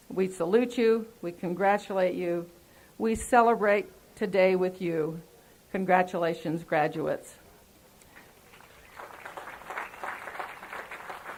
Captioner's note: applause